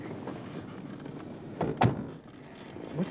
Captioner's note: door closes